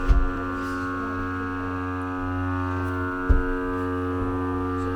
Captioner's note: machine buzzing; stone slab thudding